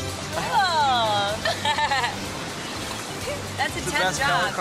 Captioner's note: laughs